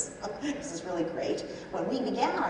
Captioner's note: laughs